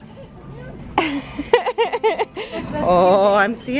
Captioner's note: laughs